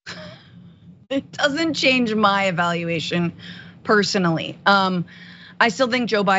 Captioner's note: laugh